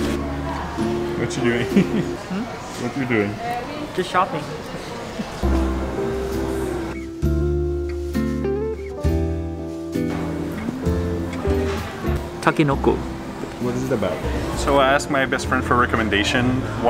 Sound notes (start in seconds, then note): 1.5 chuckles; 5.5 gentle upbeat music